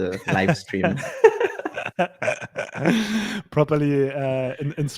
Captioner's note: both laughing